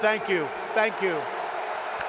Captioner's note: applause